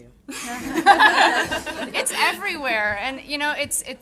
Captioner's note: audience laughing